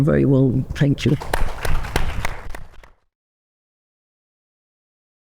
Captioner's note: audience applauding